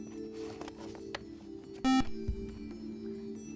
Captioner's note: buzzer